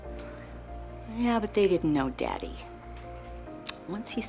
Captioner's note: none